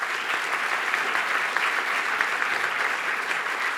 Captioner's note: applause